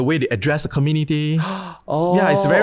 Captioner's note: gasps